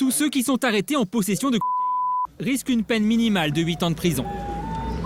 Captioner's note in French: Bip